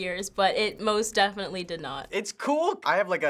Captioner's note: none